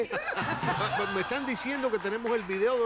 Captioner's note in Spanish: Risas